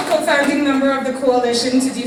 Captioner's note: applause